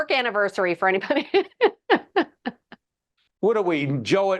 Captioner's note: laughing